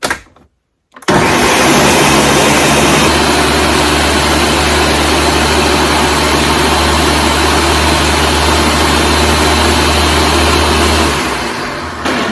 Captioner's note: blending up basil leaves